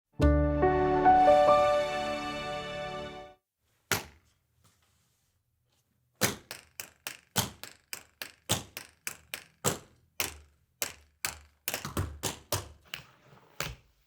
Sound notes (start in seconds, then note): 0.1 light music; 4.0 shoes tapping